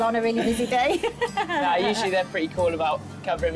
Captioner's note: both laughing